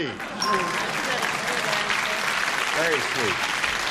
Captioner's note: applause